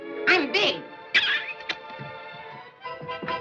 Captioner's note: loud kissing noise